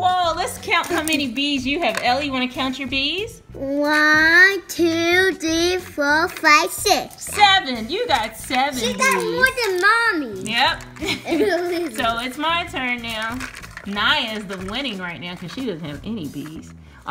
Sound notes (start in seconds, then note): 7.5 voiceover; 10.4 voiceover; 10.9 laughing